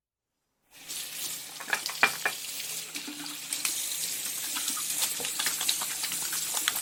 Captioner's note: water running, grabbing soap, hands scrubbing